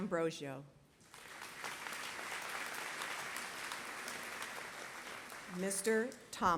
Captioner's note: applause